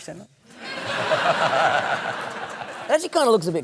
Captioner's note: laughter